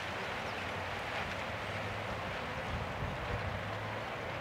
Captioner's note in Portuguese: som ambiente: pássaros cantam e som de vento